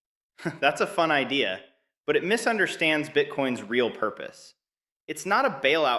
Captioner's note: chuckles